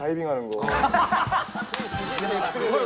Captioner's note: laughing